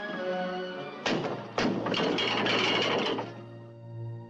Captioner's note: thumping, rattling